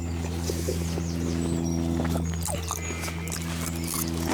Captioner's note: loud muching sounds; chomp, chomp, chomp. Gulp. Swallow; chomp, chomp, chomp